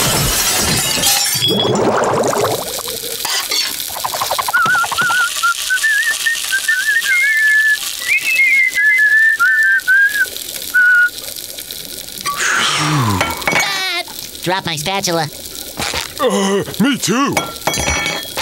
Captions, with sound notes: [whistling] Phew. [laughing] Dropped my spatula! Uh, me too.